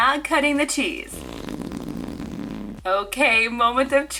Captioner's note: farting